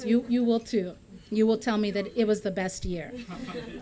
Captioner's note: laughter